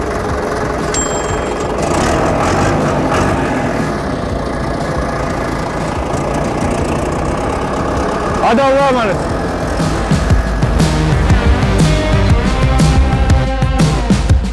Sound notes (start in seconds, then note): 0.0 engine starts; 2.9 engine revving